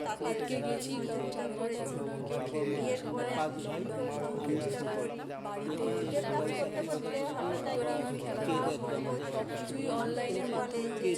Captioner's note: various voices stating their experiences